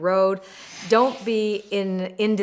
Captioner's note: wind whooshing